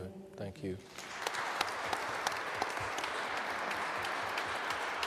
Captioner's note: audience applauds